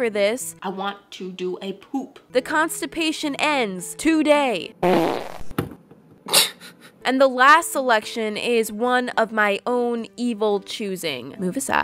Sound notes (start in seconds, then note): 4.8 wet farts